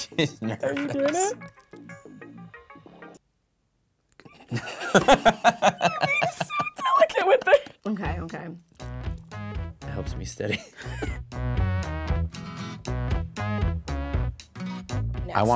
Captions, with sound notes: She's nervous. - Are you doing it? (both laughing) Okay, okay. - It helps me steady. (laughing) (funky music)